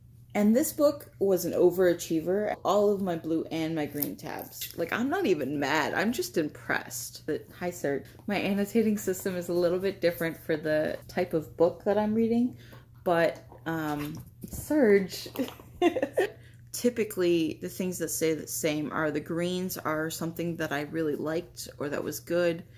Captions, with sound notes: And this book was an overachiever. All of my blue and my green tabs. Like I'm not even mad. I'm just impressed. Hi Serge. My annotating system is a little bit different for the type of book that I'm reading but um ...Serge [Laugh] Typically, the things that stay that same are the greens are something that I really liked, or that was good. And